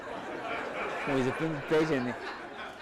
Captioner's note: audience laughs